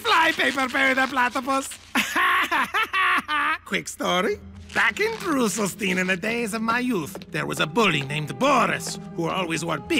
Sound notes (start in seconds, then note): 2.5 mocking